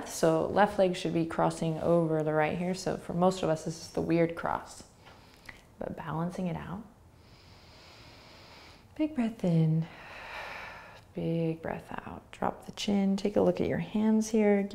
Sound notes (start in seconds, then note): 7.1 inhaling; 9.9 exhaling